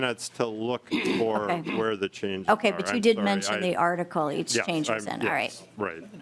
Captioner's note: laughing